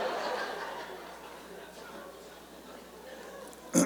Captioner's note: laughter